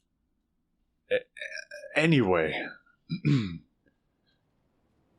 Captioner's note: clears throat